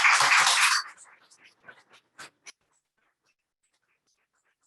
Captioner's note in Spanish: aplausos